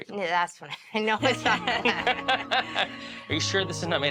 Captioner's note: everyone laughs